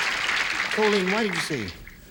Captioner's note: applause